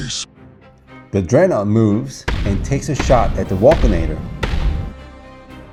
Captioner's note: screaming